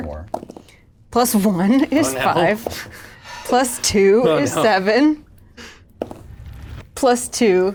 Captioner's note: laughs